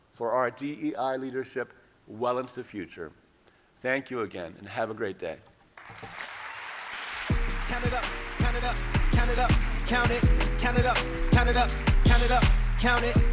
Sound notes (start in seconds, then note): 5.8 audience applauding